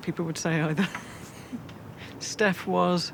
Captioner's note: laughing